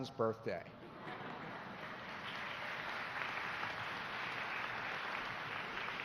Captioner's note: applause